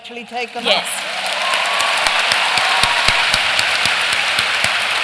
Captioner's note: cheering and applause